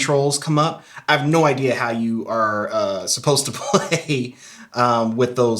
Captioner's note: laughs